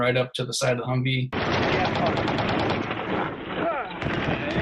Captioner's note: guns firing